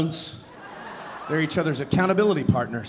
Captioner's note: audience laughing